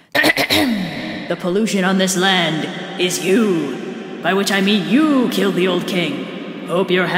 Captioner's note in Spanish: ecos